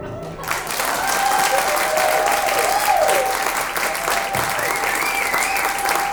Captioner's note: audience cheers and applauds